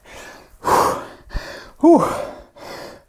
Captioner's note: breathes heavily